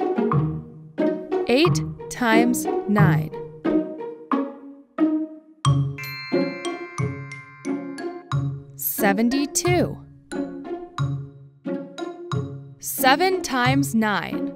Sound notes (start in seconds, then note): 3.5 inquisitive music; 5.9 bells chime; 14.3 inquisitive music